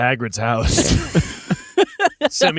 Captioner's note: laughing